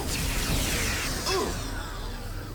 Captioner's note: explosion